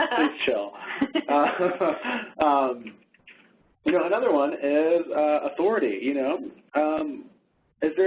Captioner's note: laughs